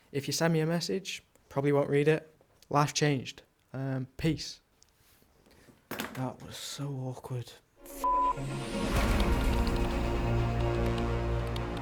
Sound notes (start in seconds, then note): 7.8 dramatic music; 7.9 beep